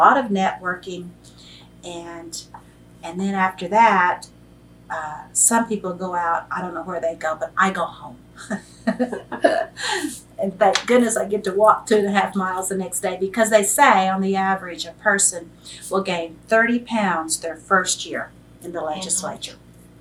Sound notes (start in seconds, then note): 8.4 laughs